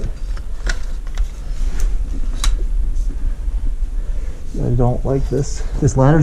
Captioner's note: shuffling and banging